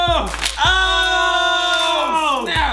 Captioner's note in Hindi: चिल्लाता है